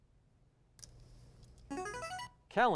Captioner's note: buzzer